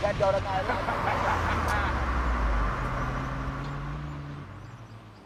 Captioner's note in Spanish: Risas